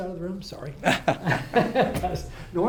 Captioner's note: laugh